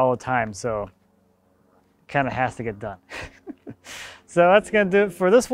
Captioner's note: laughing